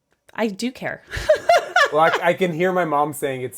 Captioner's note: laughs